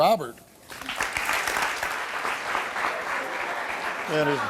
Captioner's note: audience clapping